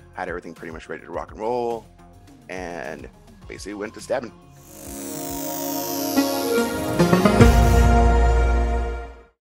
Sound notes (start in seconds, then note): 4.6 static buzzing; 6.5 electronic music